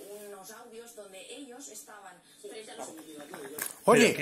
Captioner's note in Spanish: Televisión de fondo